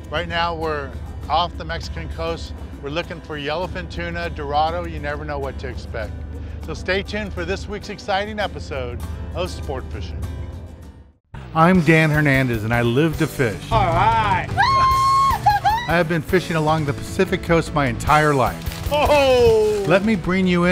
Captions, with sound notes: Right now we're off the Mexican coast. We're looking for yellowfin tuna, dorado, you never know what to expect. So stay tuned for this week's exciting episode of Sportfishing. - [Voiceover] I'm Dan Hernandez, and I live to fish. - Alright! (woman screams) - I've been fishing along the Pacific coast my entire life. (man exclaims)